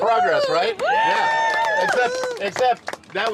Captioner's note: cheering and applause